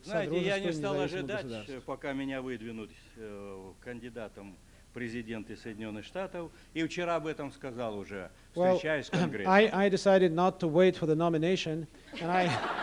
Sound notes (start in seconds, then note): 4.8 non-english speech